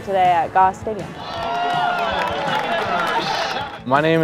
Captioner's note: cheering